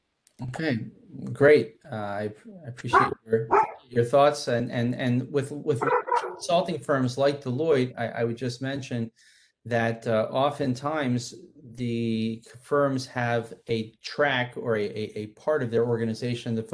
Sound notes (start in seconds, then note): 3.4 dog barking